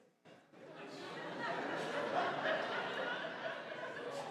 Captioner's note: audience laughing